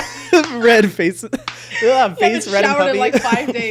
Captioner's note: both laughing